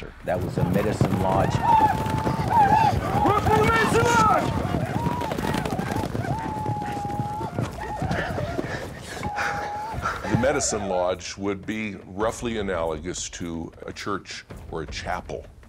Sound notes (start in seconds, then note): 1.6 whooping sounds; 4.8 whooping sounds